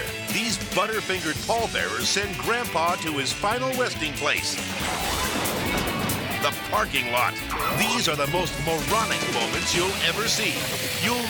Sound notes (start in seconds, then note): 4.6 coffin clattering